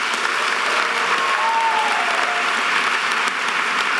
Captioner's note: audience applause